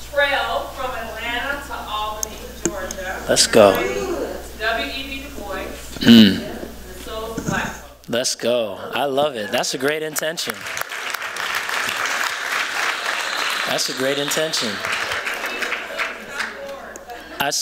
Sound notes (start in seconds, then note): 9.6 applause